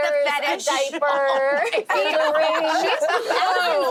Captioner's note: laughing